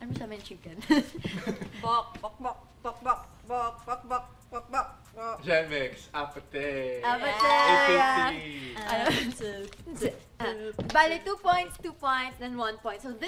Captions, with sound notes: That's kind of hard. [LAUGHS] [CLUCKING IN TUNE] Gen Myx! APT! APT! So two points, two points, and one point.